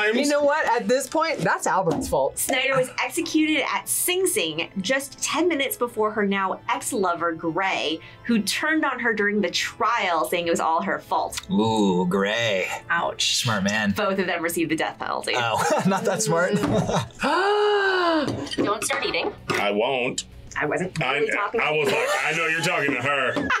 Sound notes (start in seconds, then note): 15.4 chuckles; 17.0 gasps; 21.8 laughs